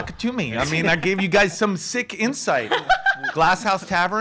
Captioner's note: laughs